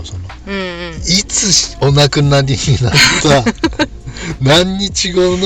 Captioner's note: laughs